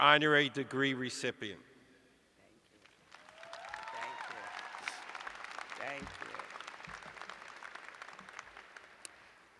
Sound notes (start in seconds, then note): 3.3 cheers and applause